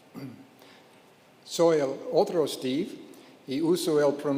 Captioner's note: speaking in Spanish